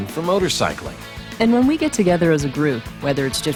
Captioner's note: voiceover